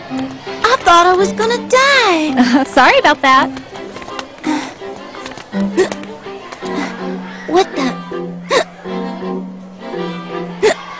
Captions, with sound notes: I thought I was gonna die. Sorry 'bout that. (sighs then hiccups) What the? (hiccups twice)